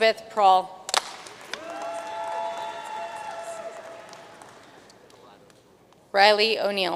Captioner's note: audience cheering and applauding